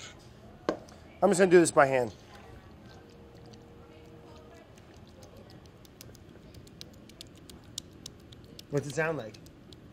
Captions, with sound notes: I'm just gonna do this by hand. [sloppy noises] What's it sound like?